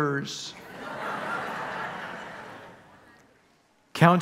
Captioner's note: congregation laughing